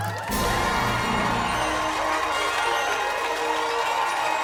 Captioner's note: applause